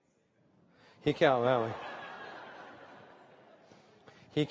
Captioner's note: laughter